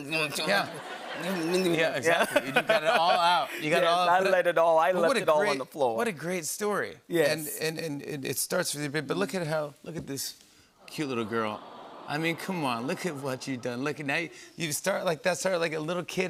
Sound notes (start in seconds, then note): 10.9 audience "Awws"